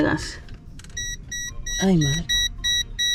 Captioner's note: beep, beep, beep; pip, pip, pip